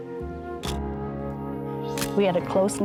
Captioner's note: camera shutter click